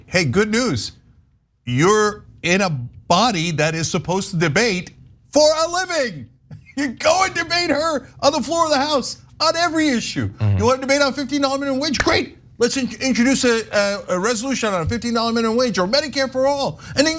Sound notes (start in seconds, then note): 6.5 laugh